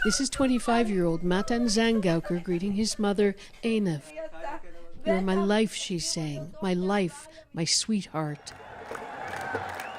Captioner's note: crying